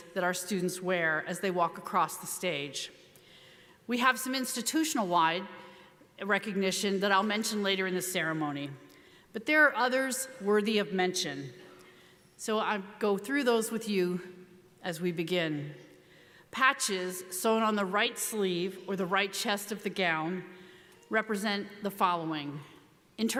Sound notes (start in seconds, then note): none